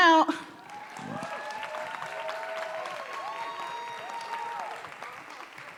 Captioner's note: audience cheering and applauding